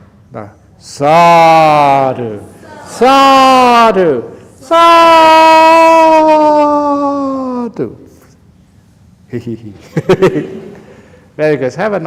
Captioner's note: laughs